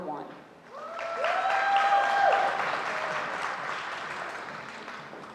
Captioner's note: audience applauding